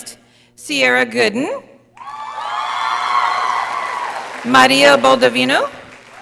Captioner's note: audience applauding